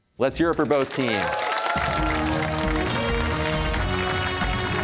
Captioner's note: cheers and applause